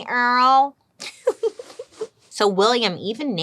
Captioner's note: giggles